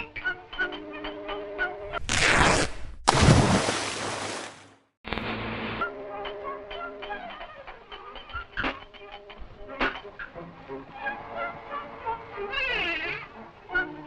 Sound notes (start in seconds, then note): 3.0 splash